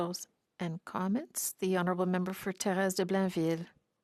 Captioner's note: speaking French